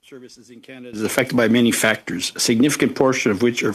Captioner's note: speaking French